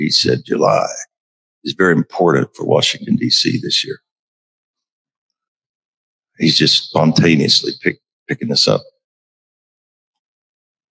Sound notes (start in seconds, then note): none